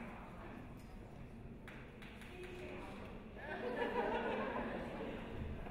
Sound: quiet audience chatter

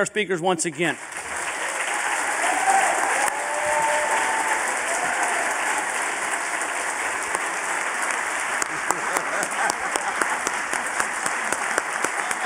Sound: applause

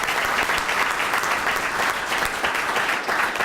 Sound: applause

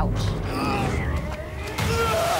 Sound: both grunting

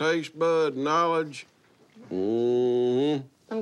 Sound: growls

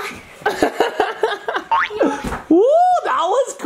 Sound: laughs

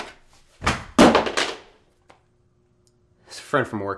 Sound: phone clanking on the floor

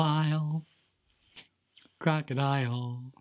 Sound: clap

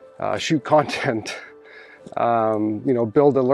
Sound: chuckles

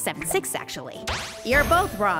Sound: magic effect

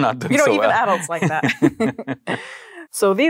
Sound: both laugh

